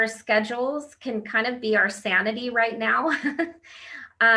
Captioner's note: laughs